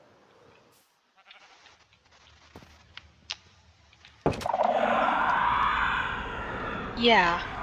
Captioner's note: screams of souls